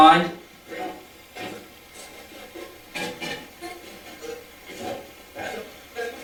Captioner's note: static playback transmitting